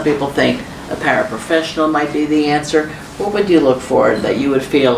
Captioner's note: none